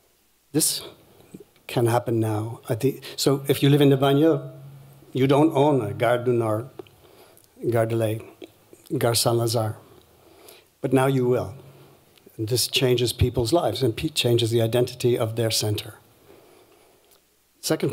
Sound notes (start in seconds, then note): 7.6 french